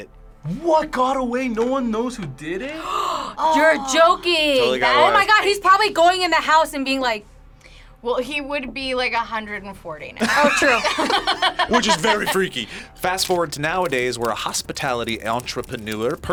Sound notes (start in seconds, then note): 2.7 gasps; 10.2 both laugh